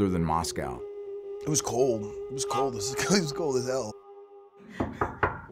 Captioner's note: laughs; knock on door